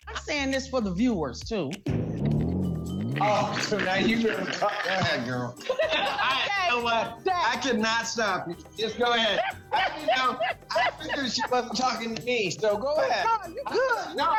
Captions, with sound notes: [laughter] - Oh, so now you-- go ahead, girl. You know what? I cannot stop you. Just go ahead. I figured she wasn't talking to me, so go ahead.